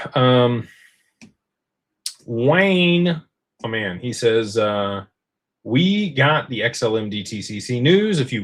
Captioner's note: clears throat